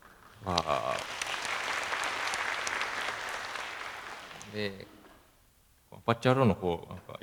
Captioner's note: applause